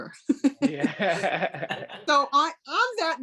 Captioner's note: laughs